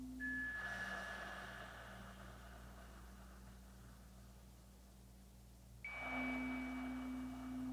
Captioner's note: slow breathing continues; chimes ringing continues